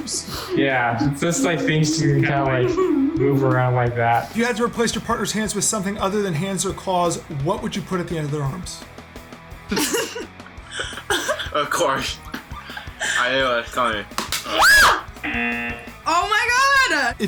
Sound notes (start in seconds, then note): 0.1 chuckles; 9.7 laughs; 14.4 screams; 15.2 buzzer